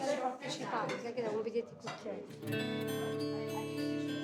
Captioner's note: all chattering; soft music